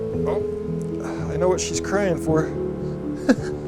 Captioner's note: chuckles